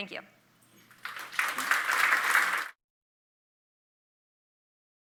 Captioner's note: audience clapping